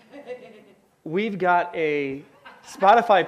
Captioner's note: audience laughs